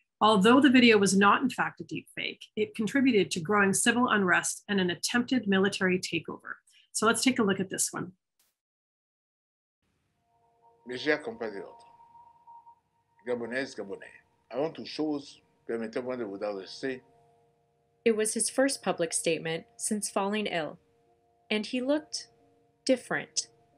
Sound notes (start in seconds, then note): 10.8 gentle music begins; 11.7 President Ali speaking in foreign language